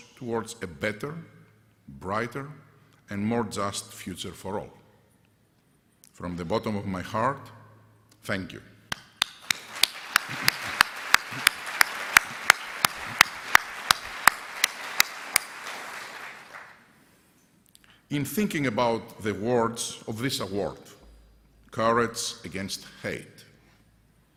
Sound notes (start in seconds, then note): 9.1 applause